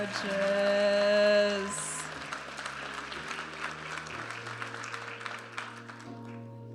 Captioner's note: audience applauding and cheering